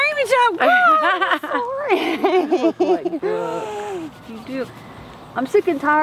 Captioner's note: laughs